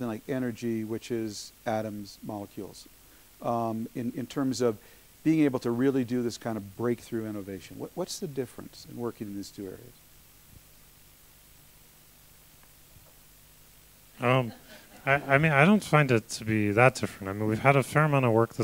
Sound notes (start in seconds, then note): 12.1 laughter; 12.1 pause